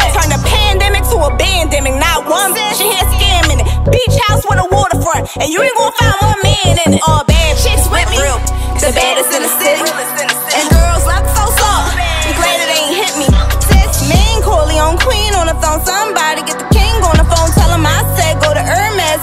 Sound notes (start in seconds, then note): none